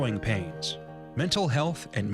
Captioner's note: voiceover